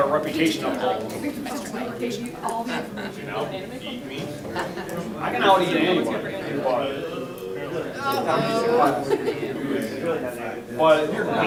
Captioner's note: talking amongst audience